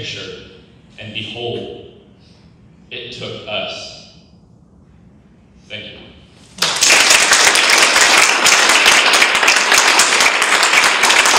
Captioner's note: audience claps